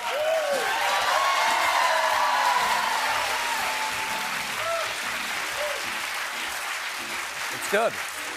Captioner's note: cheers and applause